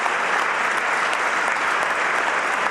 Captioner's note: applause